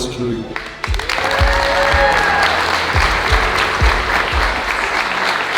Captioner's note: audience cheering and applauding